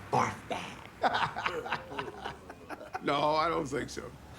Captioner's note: laughter